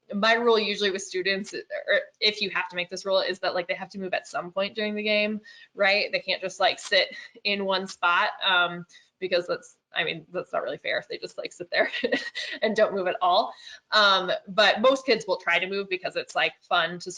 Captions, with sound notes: My rule, usually with students, or if you have to make this rule is that like, they have to move at some point during the game. Right, they can't just sit in one spot. Because that's, I mean, that's not really fair if they just like sit there (chuckles) and don't move at all. But most kids will try to move because it's fun